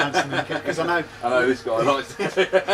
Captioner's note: laughing